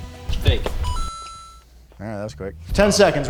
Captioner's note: bell dings